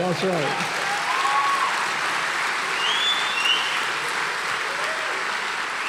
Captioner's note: audience cheering and applauding